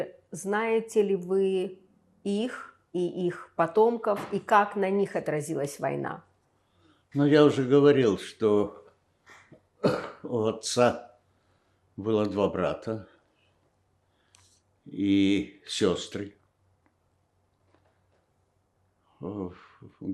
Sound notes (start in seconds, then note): 9.8 coughing